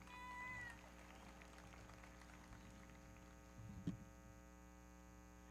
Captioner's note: everybody clapping